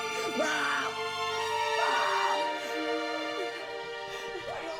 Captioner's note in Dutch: schreeuwend